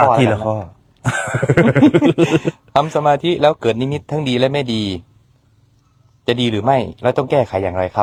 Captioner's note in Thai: เสียงหัวเราะ